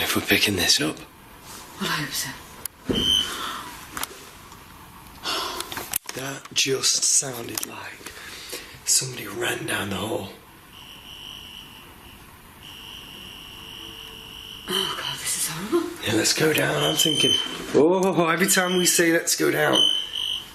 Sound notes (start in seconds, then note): 5.2 gasping; 12.6 metre beeping; 16.5 metre beeping